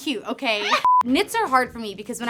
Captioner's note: beep